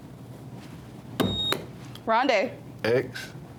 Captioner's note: buzzer beeps